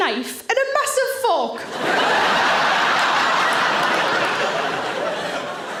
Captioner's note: audience laughing